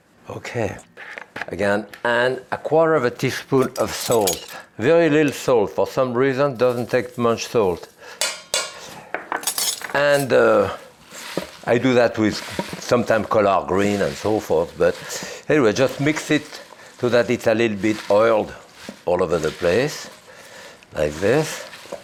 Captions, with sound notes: Okay, again, and a quarter of a teaspoon of salt. Very little salt, for some reason, doesn't take much salt. (bowl clanking) (utensils thudding) And I do that with sometime color green and so forth, but anyway, just mix it so that it's a little bit oiled all over the place, like this.